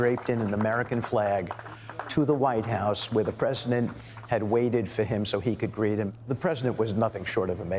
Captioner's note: cheering and applauding